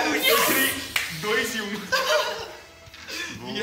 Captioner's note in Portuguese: risos